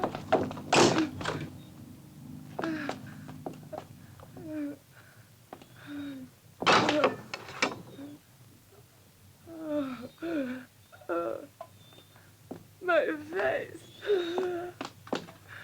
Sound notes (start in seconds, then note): 0.2 door closes; 2.7 Cleo groaning